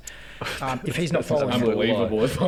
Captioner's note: giggles